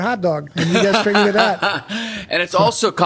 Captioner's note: Paul laughing